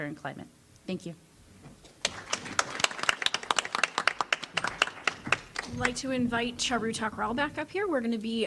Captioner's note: applause